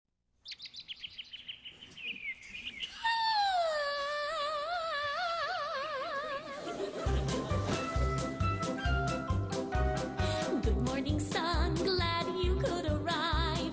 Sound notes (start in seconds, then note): 0.4 bird tweeting